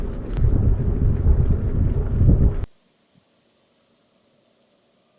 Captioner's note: bicycle wheels whirring